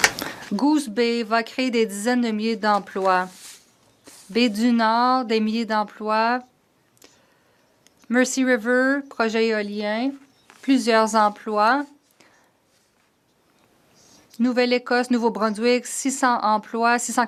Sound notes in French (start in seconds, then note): 1.8 voix de l'interprète